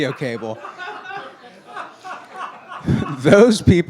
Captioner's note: laughing